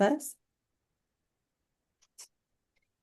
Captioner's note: silence